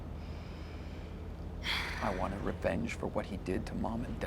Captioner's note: sighs